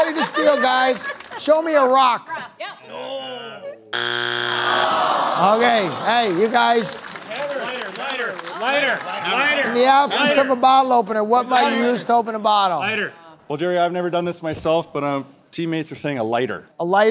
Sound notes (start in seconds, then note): 6.3 buzzer sounds; 10.6 shouting "lighter"